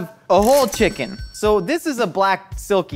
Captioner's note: cash register dings